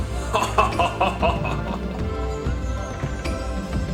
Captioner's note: Master laughing